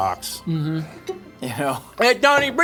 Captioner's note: chuckling; crew member lauging